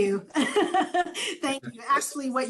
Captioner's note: laughs